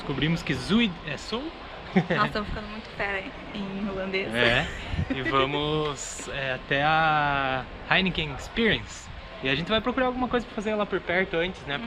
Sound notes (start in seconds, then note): 4.3 laughs